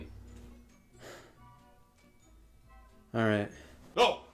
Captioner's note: sighs